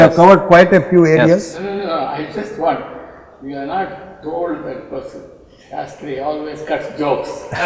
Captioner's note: laughter